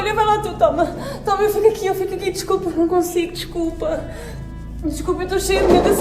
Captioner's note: speaking in foreign language